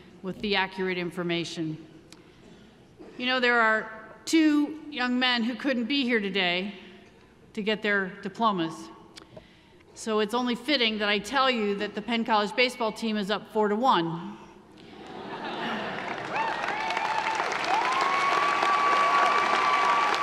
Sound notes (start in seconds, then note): 15.6 audience applauding; 15.8 audience cheering